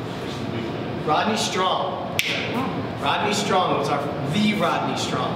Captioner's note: snaps